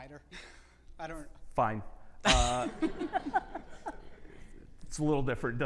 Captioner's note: laughing